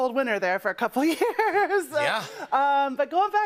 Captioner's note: laughter